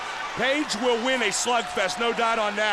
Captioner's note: crowd chatter